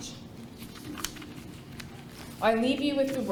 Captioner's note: paper rustling